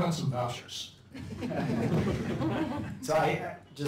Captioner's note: laughter